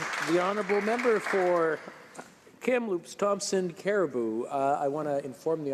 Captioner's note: applause